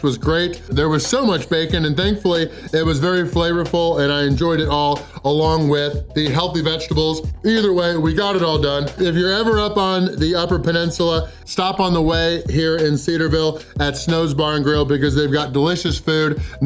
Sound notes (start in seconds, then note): none